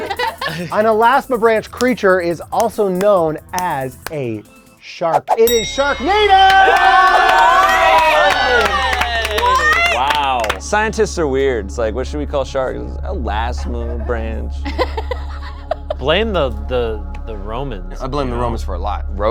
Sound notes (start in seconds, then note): 5.5 all cheering; 8.0 applause; 14.6 laughing